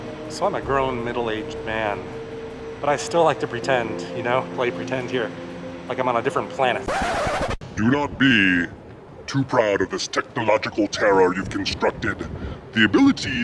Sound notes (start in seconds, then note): 6.8 record scratching; 7.7 deep voice